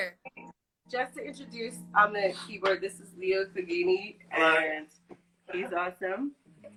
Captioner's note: laughs